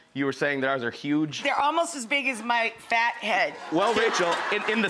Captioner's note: audience laughs